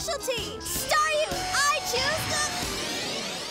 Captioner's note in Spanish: grito ahogado